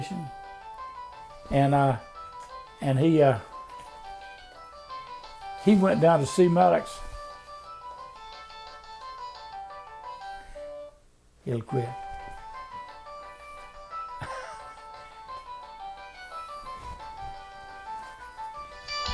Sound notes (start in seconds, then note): 2.4 phone rings in the backgrond